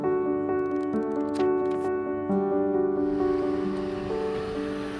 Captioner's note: faint sound of vehicles on road